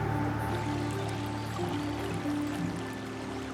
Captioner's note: stream burbles